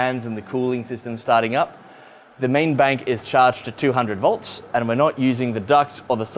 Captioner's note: faint whirring of fans